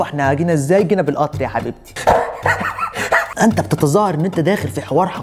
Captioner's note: laugh